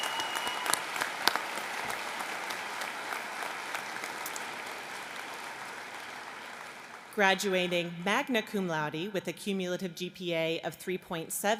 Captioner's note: applause